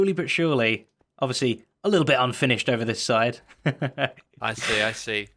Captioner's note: chuckles